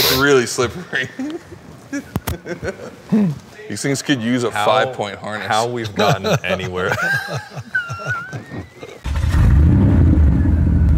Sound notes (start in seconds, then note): 5.8 all laughing; 9.1 car engine rumbling